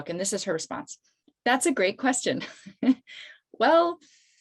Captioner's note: laughs